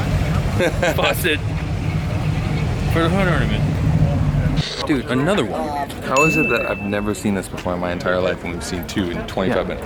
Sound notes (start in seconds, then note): 0.1 laughing; 6.1 bell dinging